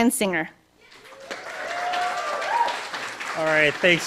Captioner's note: cheering, applause